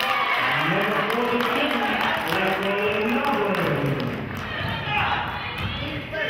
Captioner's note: cheering and clapping